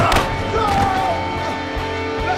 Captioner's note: scuffle